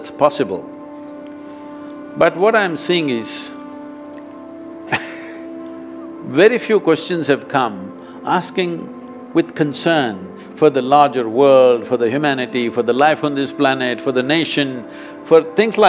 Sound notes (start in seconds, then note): 4.9 laughs